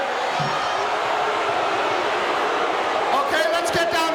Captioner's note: audience shouting